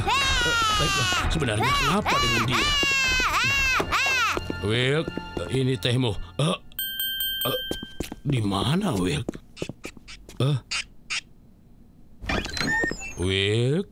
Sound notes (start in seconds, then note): 0.0 laughing; 6.7 bell ringing; 12.2 door opening